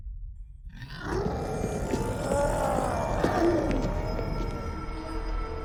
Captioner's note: revenants roaring